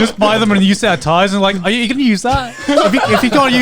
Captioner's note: all laughing